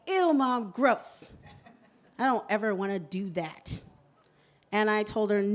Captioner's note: laughter